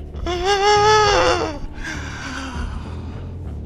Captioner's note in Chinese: 泣不成声